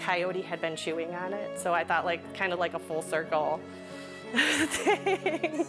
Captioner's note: laughs